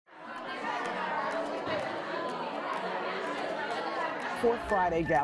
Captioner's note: crowd chattering